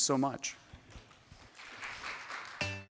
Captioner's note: applause